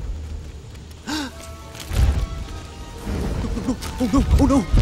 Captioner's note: Flik gasps; bright music